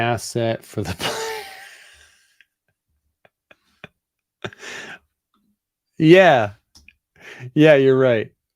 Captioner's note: laughs